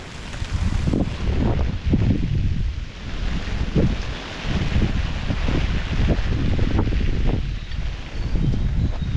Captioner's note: rain & wind